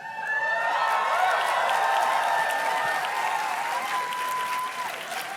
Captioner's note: audience cheers and claps